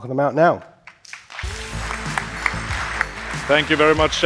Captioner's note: applause